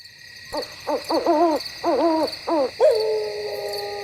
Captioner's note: crickets chirping; owl hooting; howling